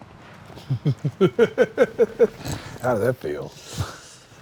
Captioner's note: laughs